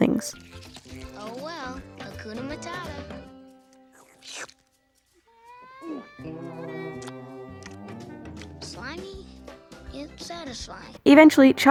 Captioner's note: slurp, gulp, lip smacking